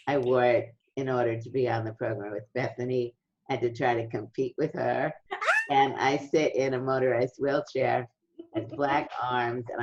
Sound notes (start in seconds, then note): 5.4 squeals